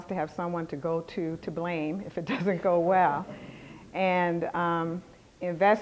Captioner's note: laughter